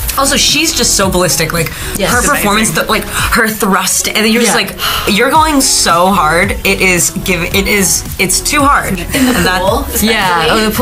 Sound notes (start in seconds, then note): 4.7 exhaling